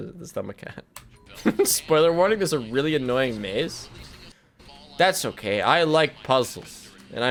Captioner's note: laughs